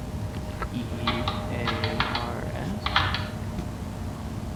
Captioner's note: typing